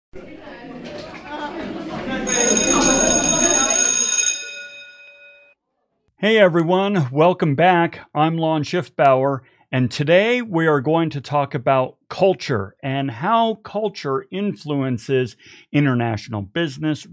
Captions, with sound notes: (background chatter) (bell rings) - Hey everyone welcome back. I'm Lon Schiffbauer and today we are going to talk about culture and how culture influences international business,